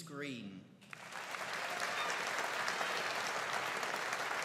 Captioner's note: audience applauding